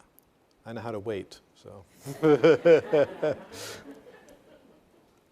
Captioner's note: all laughing